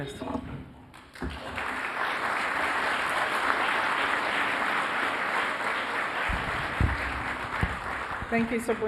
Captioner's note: applause